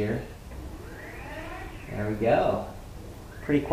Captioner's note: soft motor sounds